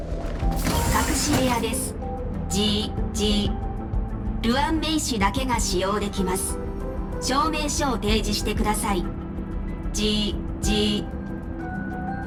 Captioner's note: buzz